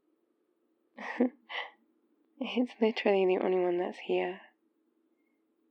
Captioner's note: laughs